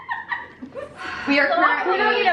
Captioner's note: laughs; sighs